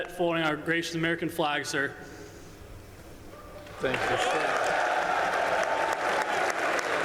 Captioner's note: applause